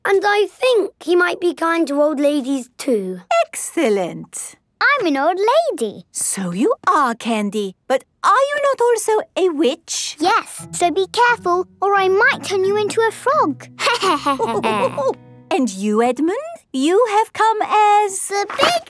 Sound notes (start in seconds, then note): 13.8 laughter